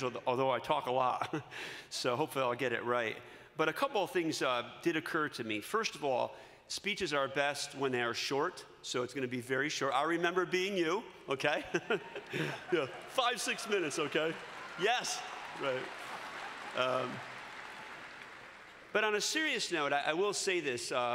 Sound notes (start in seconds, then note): 11.5 laughter; 15.6 cheering